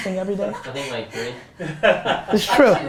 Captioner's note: group laughter